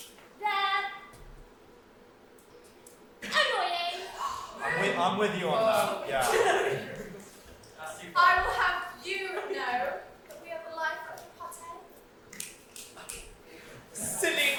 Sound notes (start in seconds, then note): 1.8 geese gasp; 12.3 click, click, click